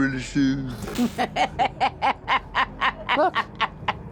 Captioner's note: laughter